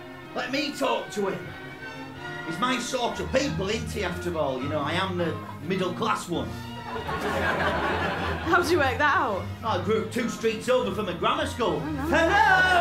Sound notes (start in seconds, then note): 6.8 laughter